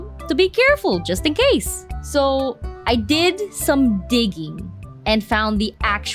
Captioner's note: none